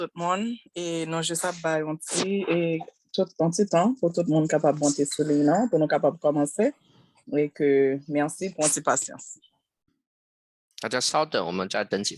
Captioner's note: spanish interpretation